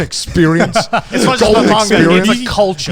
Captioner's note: laughing